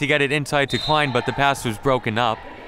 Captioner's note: referee blows whistle